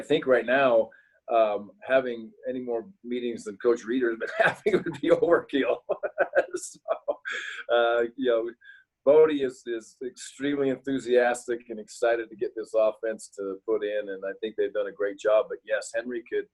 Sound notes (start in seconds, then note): 4.2 laughs